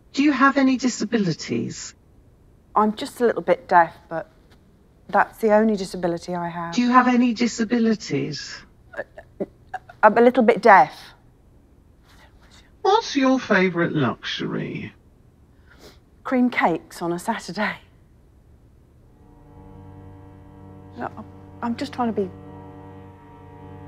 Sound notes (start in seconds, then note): 16.1 sniffs; 19.0 solemn music